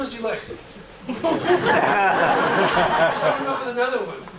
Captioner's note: laughter